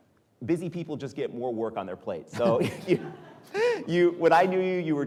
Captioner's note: chuckles